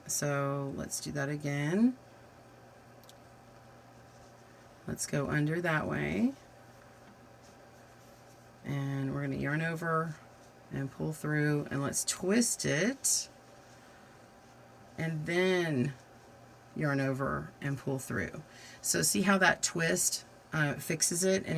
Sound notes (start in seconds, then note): 2.2 silence